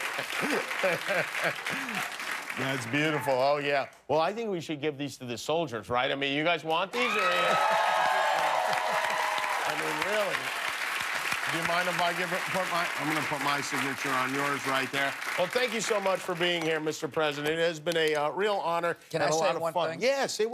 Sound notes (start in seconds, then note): 0.0 laughter and applause; 8.5 cheers and applause